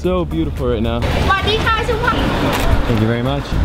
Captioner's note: announcing in foreign language